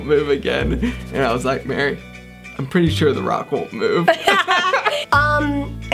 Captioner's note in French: les deux rient